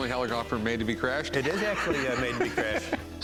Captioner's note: laughs